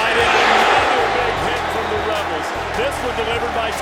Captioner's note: crowd cheering covers voice